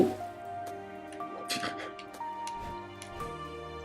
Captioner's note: snrks